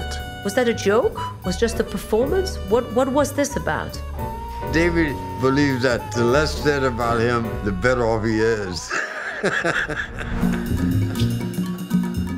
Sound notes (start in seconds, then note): 7.2 laughing